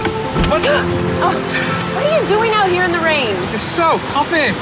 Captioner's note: gasps